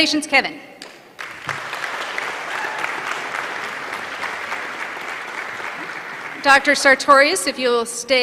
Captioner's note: applause